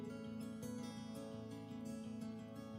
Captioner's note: none